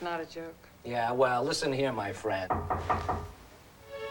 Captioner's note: knock on door